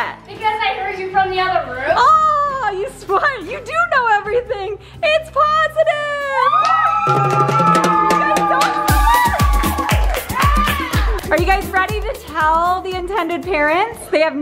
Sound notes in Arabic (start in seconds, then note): 6.4 صراخ الأطفال; 8.4 موسيقى مبهجة